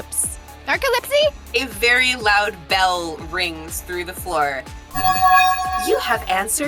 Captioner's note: bell chimes